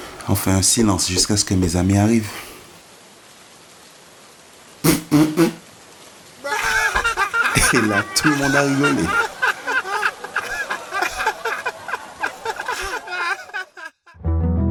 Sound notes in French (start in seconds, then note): 4.7 3 rires brefs; 6.3 Rire général; 9.4 Rire général